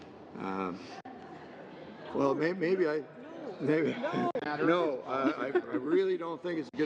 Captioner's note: laughter